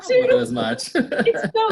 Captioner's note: laughter